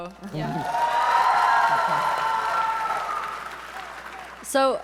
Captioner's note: audience members cheering